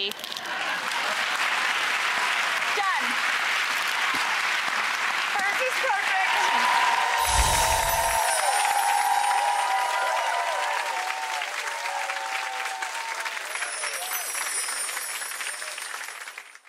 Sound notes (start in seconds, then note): 0.3 audience clapping; 7.2 chiming